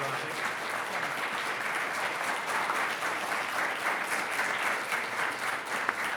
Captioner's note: attendees applauding